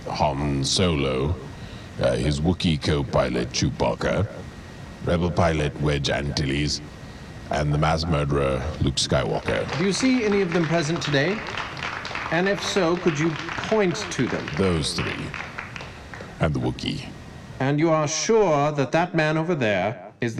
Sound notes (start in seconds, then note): 9.9 crowd clapping